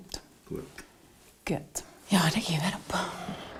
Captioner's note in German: Seufzend